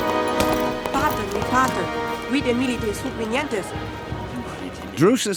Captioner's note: boy speaking foreign language